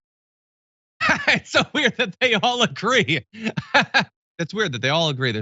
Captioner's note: laugh